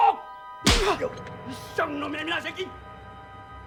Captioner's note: Shouting In Korean